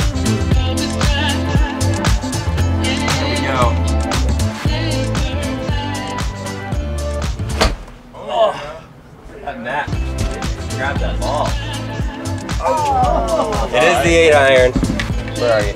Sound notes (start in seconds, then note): 7.4 golf club swinging; 12.4 crowd groans